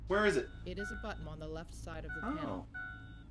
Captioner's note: computer voice